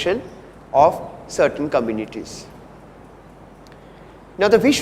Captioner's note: distortion